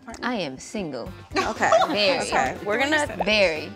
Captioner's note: all laugh